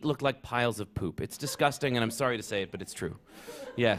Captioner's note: laughter